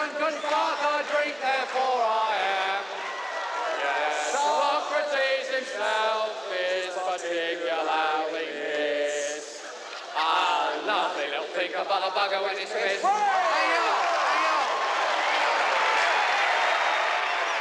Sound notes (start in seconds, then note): 14.5 crowd cheering